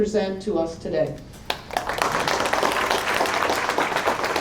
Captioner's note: applause